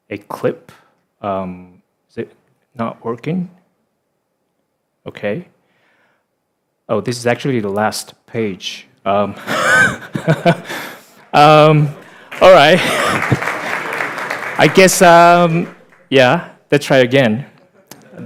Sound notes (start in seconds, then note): 11.7 audience applauding